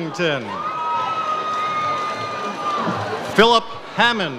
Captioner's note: audience cheers